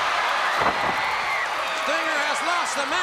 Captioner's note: crowd cheering